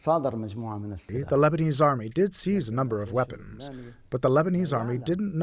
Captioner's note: through translator